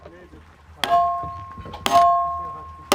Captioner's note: metallic sounds